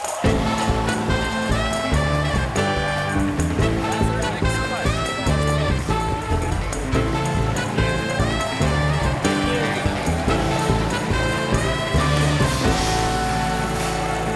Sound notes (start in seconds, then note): 0.0 applause